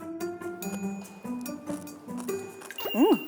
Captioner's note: crunch, crunch